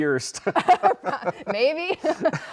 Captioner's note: both laughing